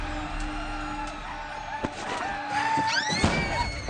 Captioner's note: native fighters warcry; people screaming